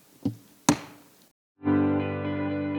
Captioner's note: gavel thudding; gentle music